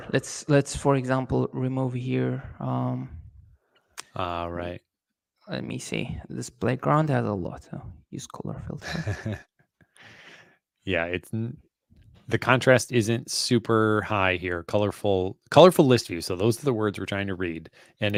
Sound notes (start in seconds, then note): 8.8 laughs